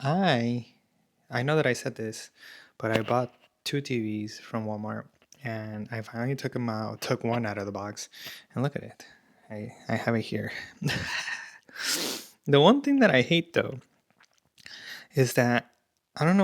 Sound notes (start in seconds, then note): 10.7 laughter; 11.8 snorts